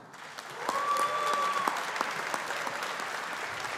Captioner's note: audience applauding